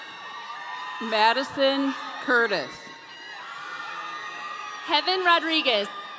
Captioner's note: audience cheering